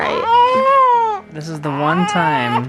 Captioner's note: baby crying